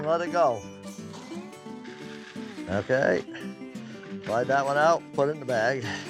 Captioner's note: grain falling